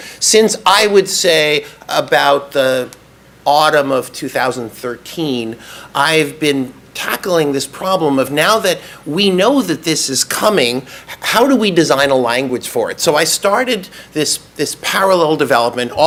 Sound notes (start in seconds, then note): none